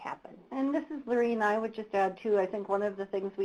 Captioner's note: voiceover